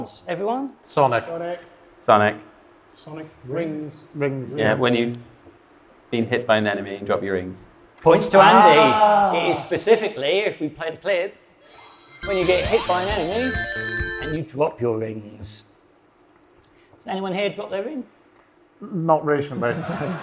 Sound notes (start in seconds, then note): 11.6 video games beeping